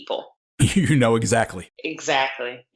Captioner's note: laughter